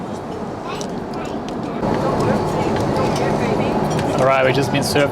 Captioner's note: background chatting